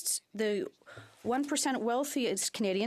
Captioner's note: speaking French